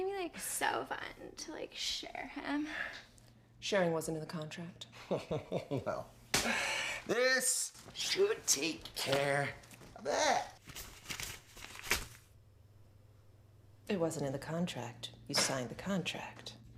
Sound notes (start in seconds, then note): 5.0 Dick laughs; 10.6 notes rustling